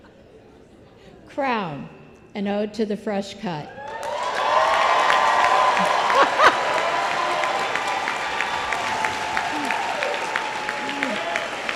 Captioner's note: applause